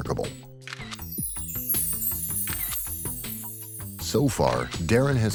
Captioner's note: camera shuttering